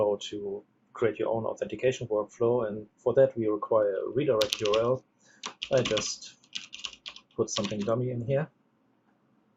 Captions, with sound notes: to create your own authentication workflow. And for that, we require redirect URL. (keyboard clicks) I just put something dummy in here.